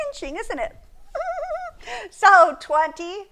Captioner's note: laughing